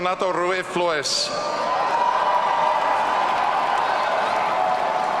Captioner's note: audience cheering